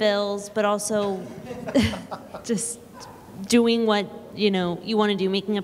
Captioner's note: laughter